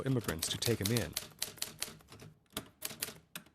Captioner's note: clacking continues